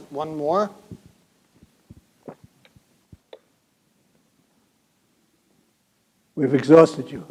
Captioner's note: silence